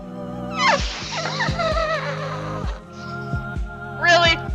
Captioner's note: laughter that sounds like balloon noises